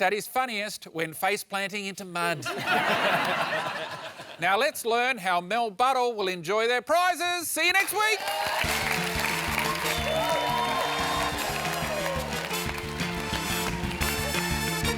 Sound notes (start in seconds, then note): 2.4 laughter; 7.9 whooping and applause